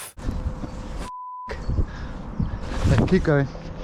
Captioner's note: beep